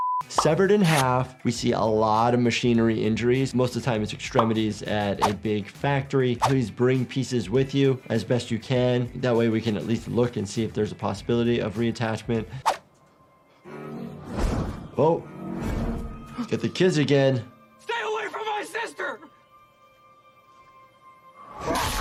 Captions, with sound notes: Severed in half, we see a lot of machinery injuries. Most of the time it's extremities at a big factory. Please bring pieces with you, as best you can. That way we can at least look and see if there's a possibility of reattachment. (panicked breathing) (tense music) Oh, got the kids again. - Stay away from my sister!